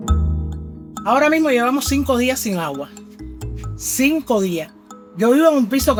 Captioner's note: speaker speaking in Spanish